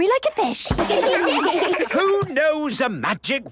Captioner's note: children laugh